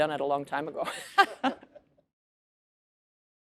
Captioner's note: laughs